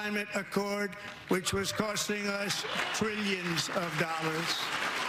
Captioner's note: applause